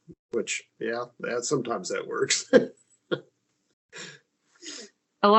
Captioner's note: chuckles